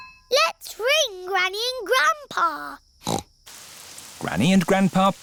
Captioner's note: snorts